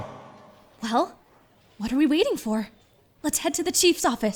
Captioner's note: whispering